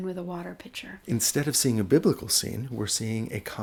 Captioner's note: voiceover